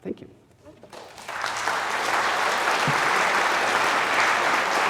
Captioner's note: audience applauding